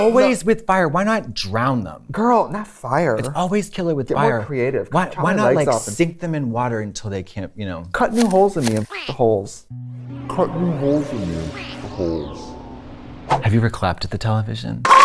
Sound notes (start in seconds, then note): 9.8 beep